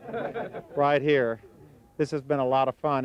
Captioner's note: laughing